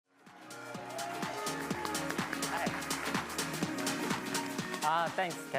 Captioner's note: upbeat music; crowd clapping